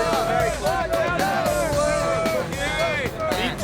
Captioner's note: students shouting; upbeat music